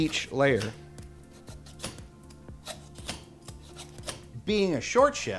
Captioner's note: peeler scrapping